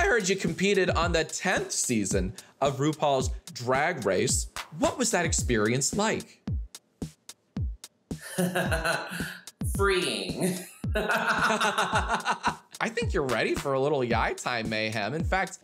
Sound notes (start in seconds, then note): 8.3 laughs; 10.9 laughing